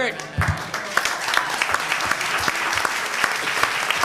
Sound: applause

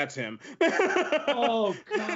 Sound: laughs

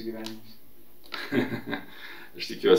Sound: laughs

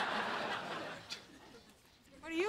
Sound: chuckles

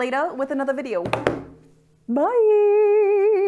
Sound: hands thud

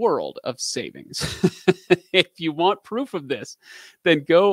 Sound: laughing

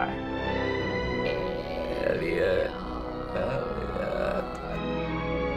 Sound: slow croaking

